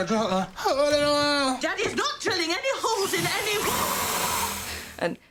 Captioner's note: drill noises